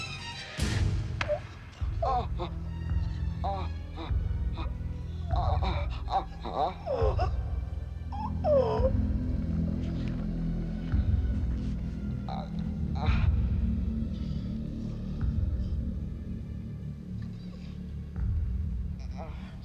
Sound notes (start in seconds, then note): 0.3 Effenbeck Twins groaning; 2.4 suspenseful music; 12.4 Effenbeck Twins groaning